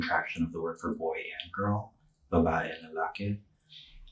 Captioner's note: speaking Tagalog